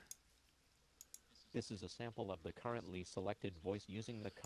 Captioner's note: Jaws speaks in deeper voice